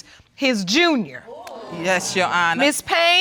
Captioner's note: audience exclaiming